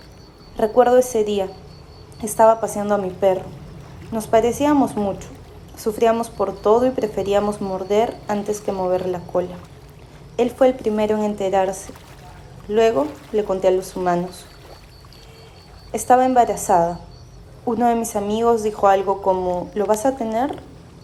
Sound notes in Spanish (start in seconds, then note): 0.2 sonidos de agua, palmeras y voz off femenina #1; 10.2 sonidos de agua, reflejo personas y voz off femenina #1; 16.2 sonidos de agua, coches y voz off femenina #1